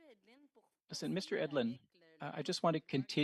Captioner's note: speaking French